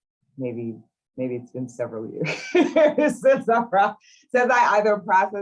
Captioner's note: laughs